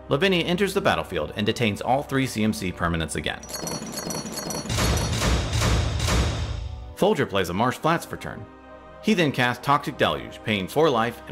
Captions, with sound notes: Lavinia enters the battlefield and detains all three CMC permanents again. (chains rattling) (rails thudding) Folger plays a Marsh Flats for turn. He then casts Toxic Deluge paying for life